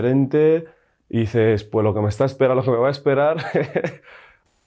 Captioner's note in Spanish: risas